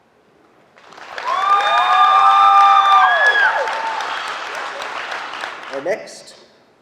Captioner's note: applause